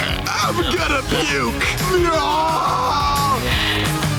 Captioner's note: screaming